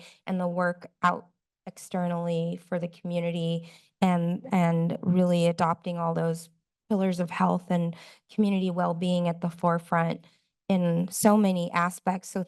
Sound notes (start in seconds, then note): none